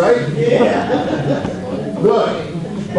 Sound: audience laughs

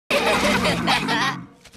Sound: laughter

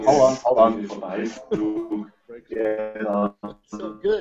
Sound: robotic voice

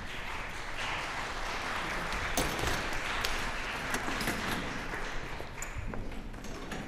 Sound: applause

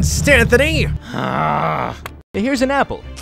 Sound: Stan growls

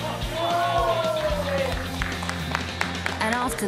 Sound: applause

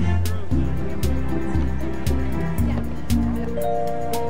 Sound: chattering

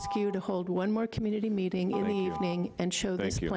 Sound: timer buzzing

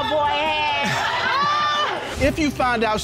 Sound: audience exclaims

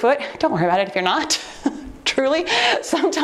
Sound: chuckles

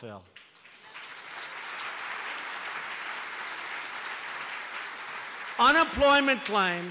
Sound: applause

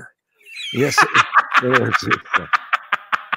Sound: laughing

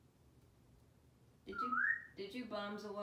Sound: whistling

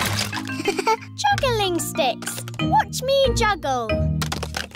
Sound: chuckles

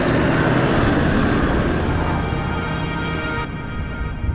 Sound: wind blowing; Landrover rumbling

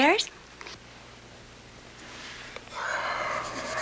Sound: sighs

